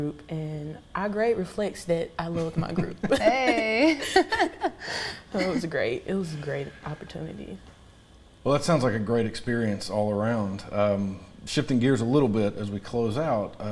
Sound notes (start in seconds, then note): 2.4 everybody laughs